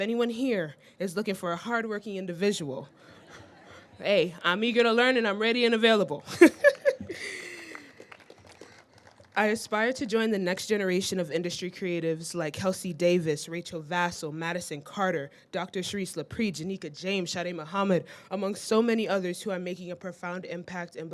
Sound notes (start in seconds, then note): 3.1 all laugh; 6.8 all clapping